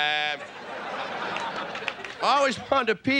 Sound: audience laughing

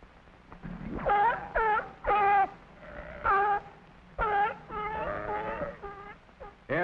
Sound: sea lion barking

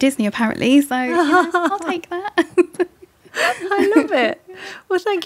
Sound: chuckles

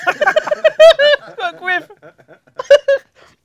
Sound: laughs

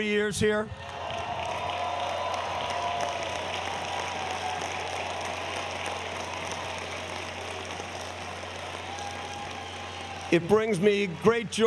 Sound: applause

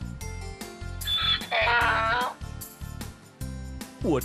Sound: sound of a donkey

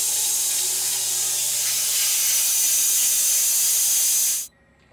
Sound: saw whirring

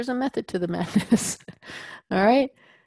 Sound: laugh

